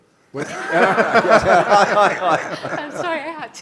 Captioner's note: laughter